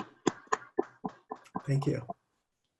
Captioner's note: clapping